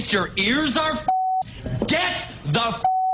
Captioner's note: beep; beep